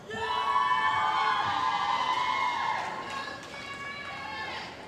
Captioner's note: cheering & Applause